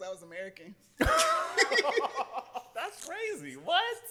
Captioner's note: laughter